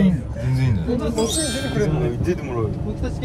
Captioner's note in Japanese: 効果音 ✨キラーン✨